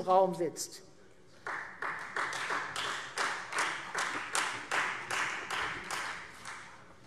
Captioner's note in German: Beifall Freie Demokraten